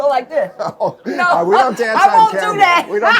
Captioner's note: laughs; laughter